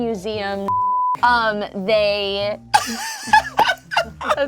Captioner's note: beep